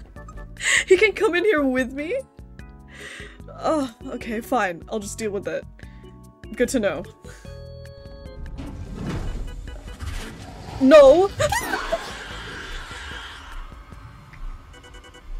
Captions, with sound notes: He can come in here with me?? Oh okay fine I'll just deal with it... Good to know [ALIEN NOISES] NO?! [SCREAM]